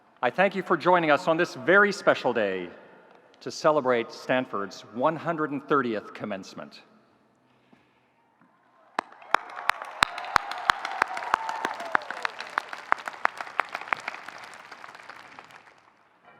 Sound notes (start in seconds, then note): 8.9 audience cheering; 8.9 audience applauding